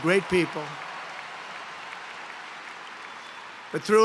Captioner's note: applause